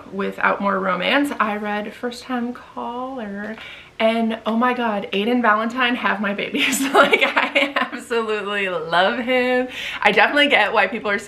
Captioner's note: giggles